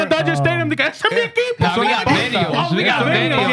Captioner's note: speaking In Foreign Language